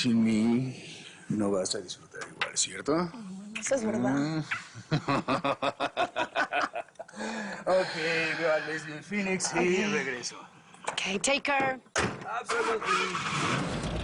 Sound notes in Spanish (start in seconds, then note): 4.8 Risas; 13.8 Ruido de motor